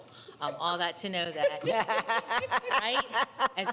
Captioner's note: attendees laughing